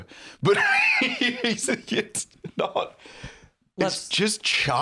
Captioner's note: laughing